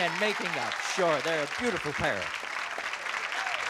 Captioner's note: applause